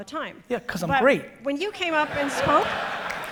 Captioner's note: audience laughing